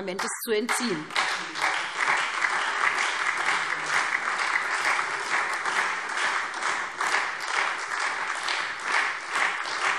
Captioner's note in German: Anhaltender Beifall SPD und Freie Demokraten